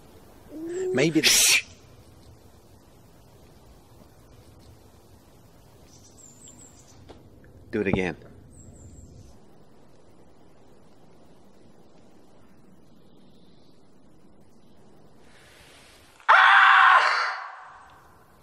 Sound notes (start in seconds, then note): 16.3 robin howling